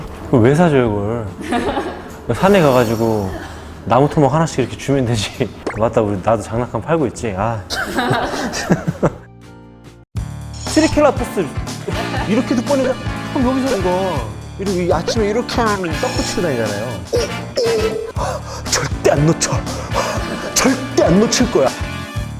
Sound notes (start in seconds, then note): 7.8 laughing